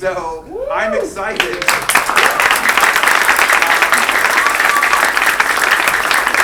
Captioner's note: students claps; cheering